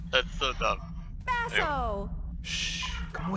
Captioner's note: Jenivere, excitedly; Basso, in a hushed tone